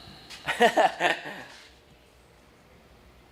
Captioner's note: laughs